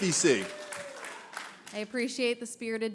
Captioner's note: applause